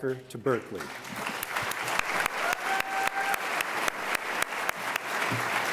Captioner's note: audience applauding